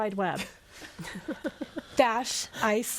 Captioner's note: all laughing